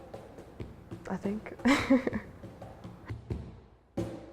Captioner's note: laughing